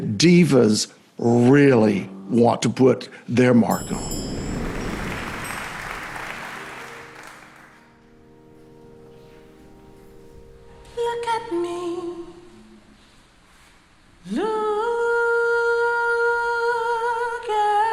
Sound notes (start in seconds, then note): 4.2 crowd clapping; 6.8 piano music